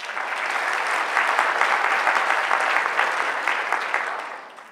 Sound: audience applause

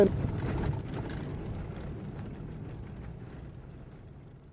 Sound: the sound of the engine of the vehicle

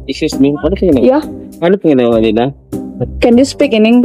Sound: speaking in tagalog

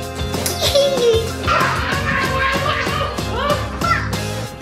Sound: laughing

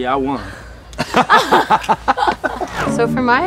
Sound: laugh

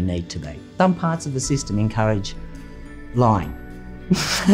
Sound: laughing

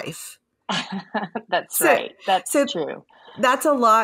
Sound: laughs

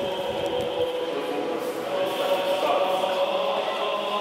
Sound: chanting

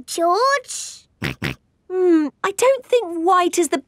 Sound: snorts

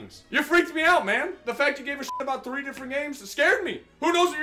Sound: beep

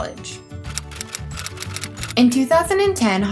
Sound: typewriter Sounds

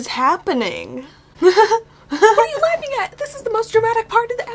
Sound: laughs

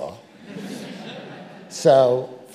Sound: audience laughing

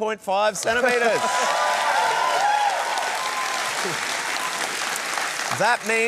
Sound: cheering, applause

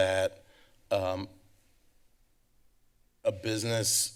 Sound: pause

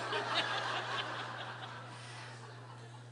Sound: laughter

